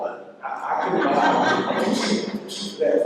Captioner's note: laughter